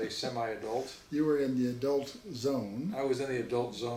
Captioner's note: laughs